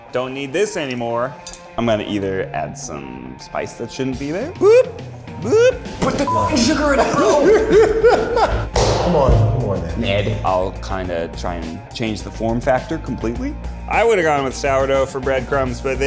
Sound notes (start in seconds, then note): 6.2 beep; 6.5 laughing